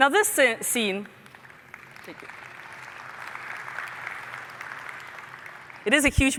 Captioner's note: applause